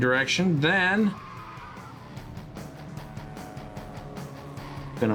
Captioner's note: wind blowing